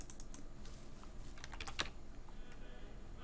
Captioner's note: keyboard clicks